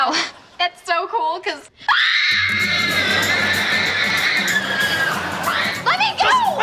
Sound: screaming

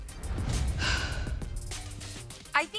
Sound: sigh

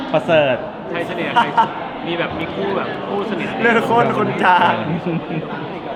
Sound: laughs

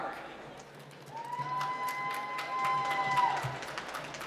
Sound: applause

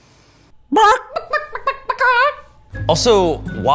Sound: narrator mimic chicken clucking

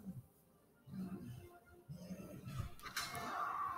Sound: crash

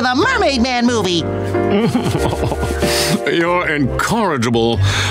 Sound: laughing

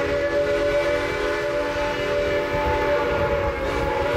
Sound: one long whistle

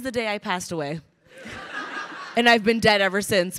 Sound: crowd laughing

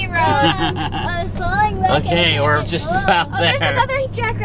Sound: laughs

